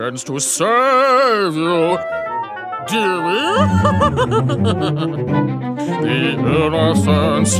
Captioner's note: laughing